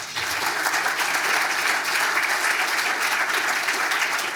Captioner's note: attendees applauding